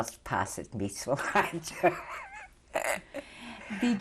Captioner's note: laughs